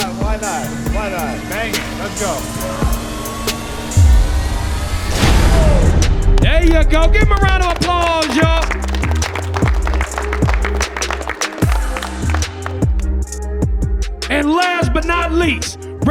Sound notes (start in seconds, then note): 3.5 intense music; 8.7 clapping